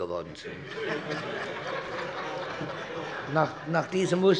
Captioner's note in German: Heiterkeit